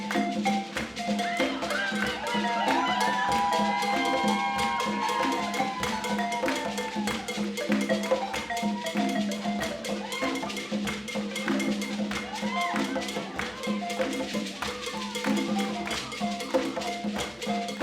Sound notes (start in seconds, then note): 1.7 people cheering; 6.7 upbeat balafon music continues